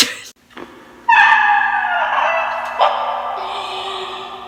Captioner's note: actually laughs at their own pathetic joke